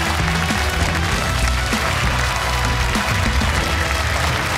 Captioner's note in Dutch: applaus